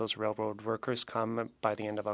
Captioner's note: speaking French